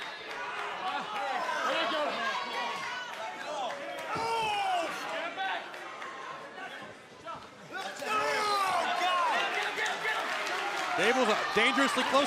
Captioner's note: crowd chatter